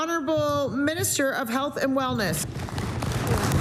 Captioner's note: applause